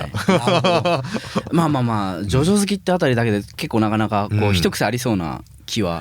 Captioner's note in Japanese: 笑い